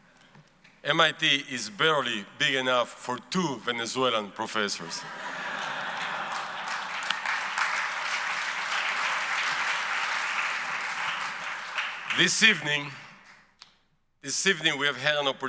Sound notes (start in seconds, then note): 4.8 audience laughs; 7.2 audience applauds